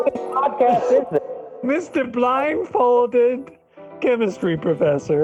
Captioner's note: giggles